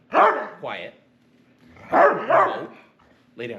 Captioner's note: dog barks; dog barks